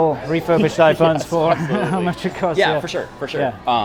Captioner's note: laughs